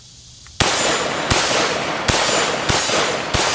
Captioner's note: gun firing